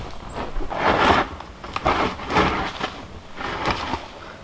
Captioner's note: shovel scraping